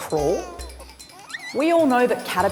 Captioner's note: baby babbling